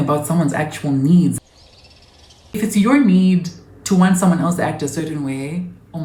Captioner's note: side note screen, nature sounds